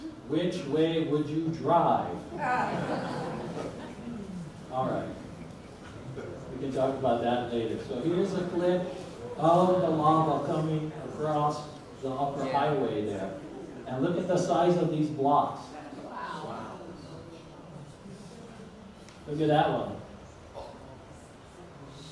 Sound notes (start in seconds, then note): 2.4 audience laughs; 21.8 audience chatters